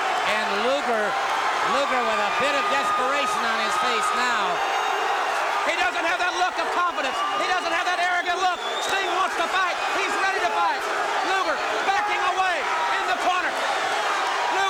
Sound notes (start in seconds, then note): 4.5 crowd cheering